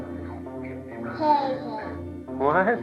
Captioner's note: baby babbles